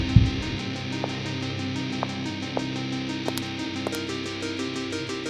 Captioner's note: heartbeat; the sound of heels